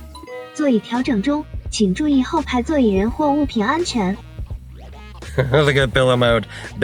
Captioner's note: car beeps; car speaking in Chinese; laughs